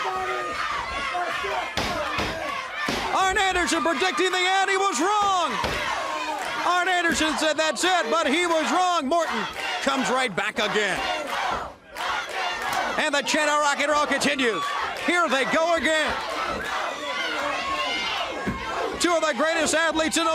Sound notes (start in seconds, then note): 0.1 crowd chatter; 12.4 crowd cheering